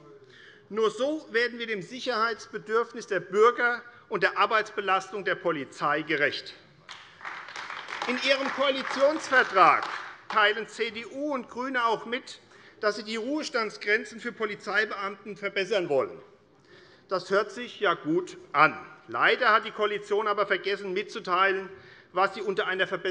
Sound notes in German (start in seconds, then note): 6.8 Beifall AfD